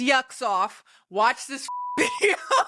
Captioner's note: beep; laughing